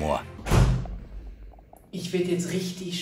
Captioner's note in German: Knall